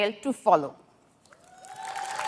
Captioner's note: applause